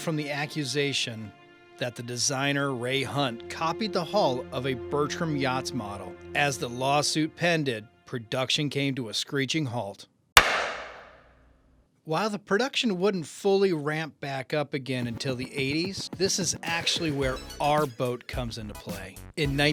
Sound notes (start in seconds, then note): 10.4 bangs gavel